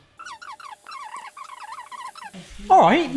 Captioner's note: fast forwarding pitch